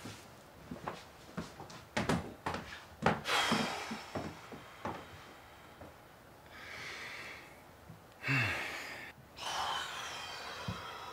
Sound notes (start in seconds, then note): 3.2 Bryan exhaling